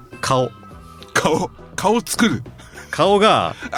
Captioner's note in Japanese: 咳払い